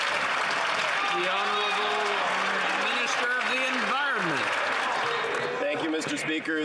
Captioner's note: some Applause